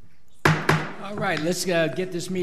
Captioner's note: gavel bangs